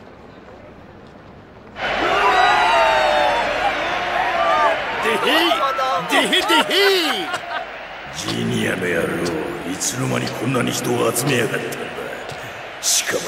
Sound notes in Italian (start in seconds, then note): 1.8 grida di eccitazione